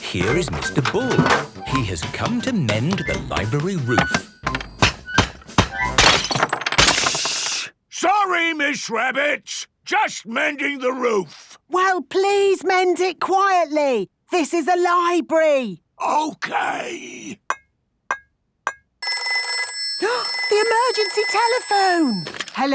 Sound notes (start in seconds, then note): 4.5 banging, crashing; 15.9 whispering; 19.1 phone ringing, gasp